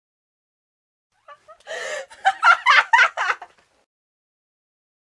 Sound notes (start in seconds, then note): 1.2 sound of laughing